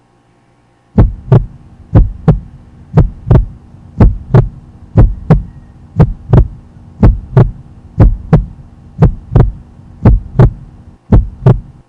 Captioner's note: heartbeat